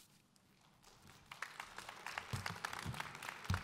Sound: audience applause

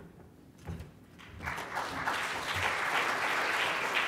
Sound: applause

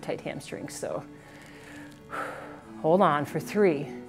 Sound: deep breathes

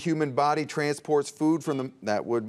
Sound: buzzer beeps

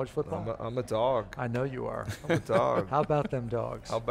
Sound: laughing loudly

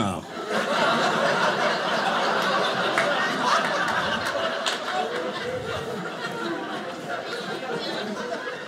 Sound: audience laughing

